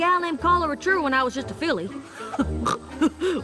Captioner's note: snort